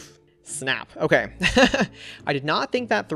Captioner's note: laughs